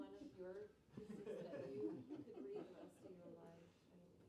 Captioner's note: laughs